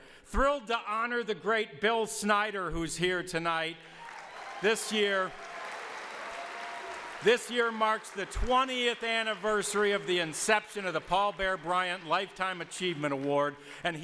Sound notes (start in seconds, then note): 4.3 audience applauds